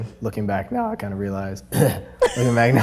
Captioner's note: voice cracks; clears throat; both laugh